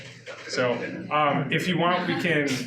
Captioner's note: audience laughs